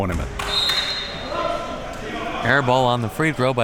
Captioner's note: whistle blowing